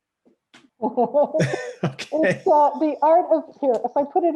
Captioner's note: both laugh